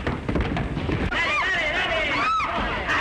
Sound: screams

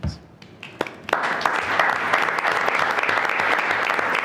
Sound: everyone clapping

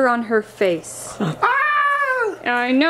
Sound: person exclaims

